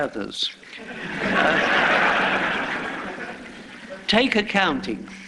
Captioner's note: laughter